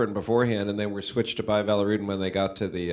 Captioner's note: none